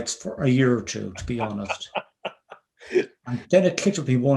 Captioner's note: laughing